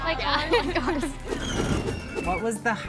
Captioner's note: wheel screeches; wind whooshes